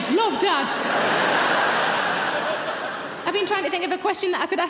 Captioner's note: audience laugh